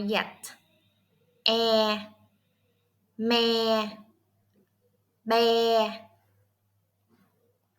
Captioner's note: Vietnamese